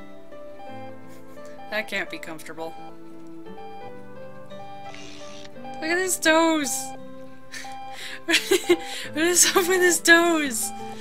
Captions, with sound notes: That can't be comfortable. Look at his toes! (Laughing) What is up with his toes!?